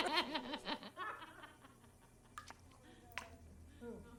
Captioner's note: laughing continues